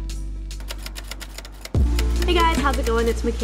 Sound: typewriter clicking

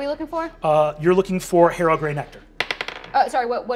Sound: dice rolling

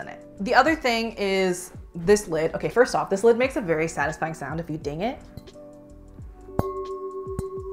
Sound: dings

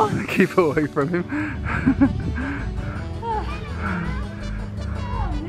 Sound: laughing

